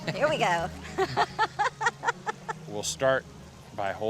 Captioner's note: laughs